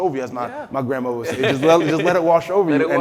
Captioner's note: laughing